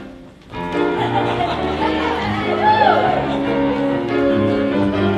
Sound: laughter

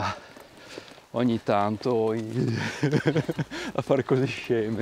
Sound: laughter

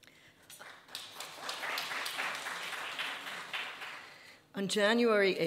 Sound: audience applauding

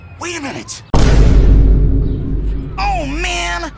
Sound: Vine Boom Sound Effect

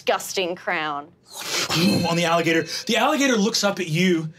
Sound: blows air

